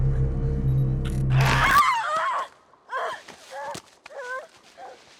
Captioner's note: Eddy screaming